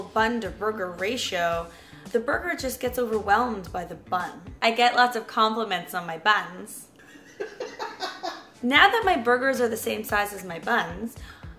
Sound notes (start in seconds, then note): 7.0 laughter